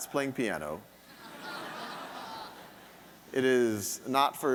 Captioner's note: audience laughing